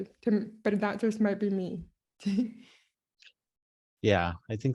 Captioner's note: laughs